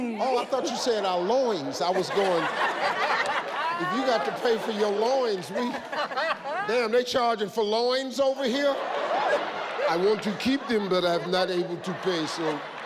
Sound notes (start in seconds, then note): 2.9 group and audience laughing; 8.4 audience laughs